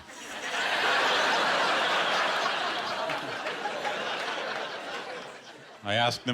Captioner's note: laughter